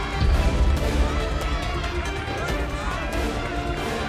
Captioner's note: crowd cheering; thrilling and emotional music